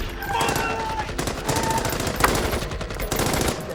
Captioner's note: gunshots blasting